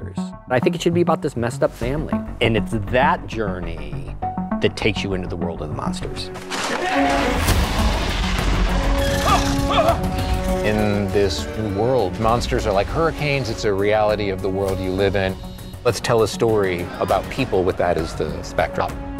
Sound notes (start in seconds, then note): 6.6 yells; 7.4 monsters roaring